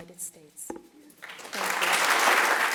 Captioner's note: applause